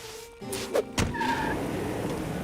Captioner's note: tires squeal